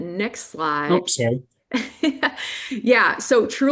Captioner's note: chuckles